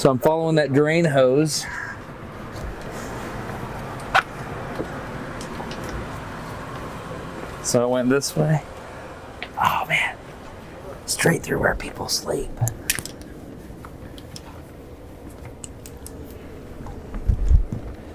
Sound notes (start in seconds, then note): 9.9 whispering